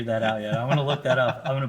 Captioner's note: laughs